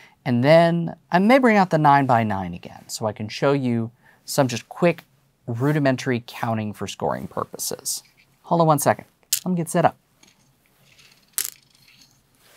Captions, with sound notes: And then, I may bring out the 9 by 9 again, so I can show you some just quick, rudimentary counting for scoring purposes. Hold on one second. Let me get set up. (stones clattering) (stones clattering)